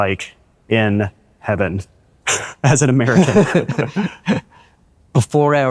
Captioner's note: laughs